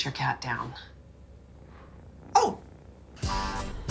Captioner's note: purring